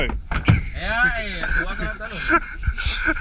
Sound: laughter

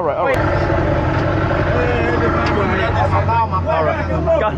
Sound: boat engine idling; group speaking Portuguese

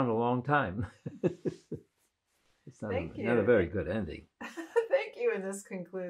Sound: laughing

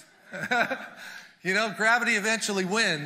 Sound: chuckles

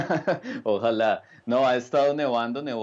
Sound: laughter

